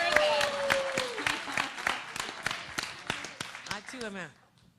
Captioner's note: applause